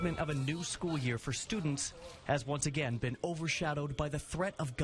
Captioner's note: NATS - School Bell